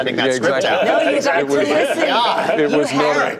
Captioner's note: chatter; laughter